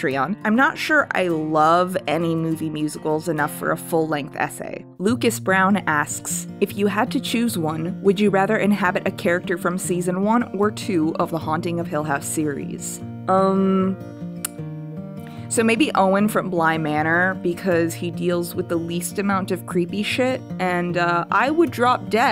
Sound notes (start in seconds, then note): 14.4 clicks tongue